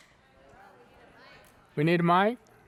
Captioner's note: speaking faintly